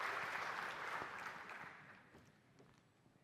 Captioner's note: applause